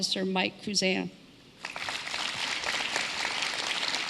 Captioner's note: applause